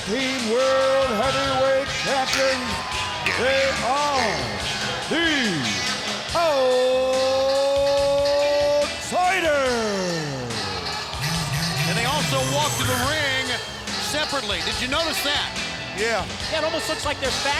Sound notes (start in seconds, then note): 7.0 crowd cheering